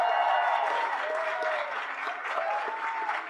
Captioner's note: people cheer